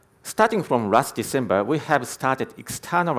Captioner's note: none